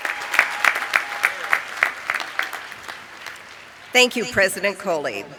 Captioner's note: applause